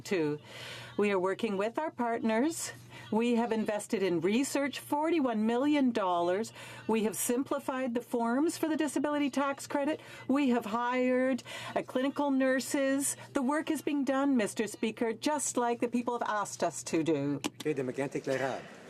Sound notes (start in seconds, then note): none